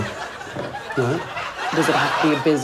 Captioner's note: laughter